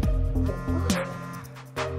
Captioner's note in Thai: เสียงโทรศัพท์สั่น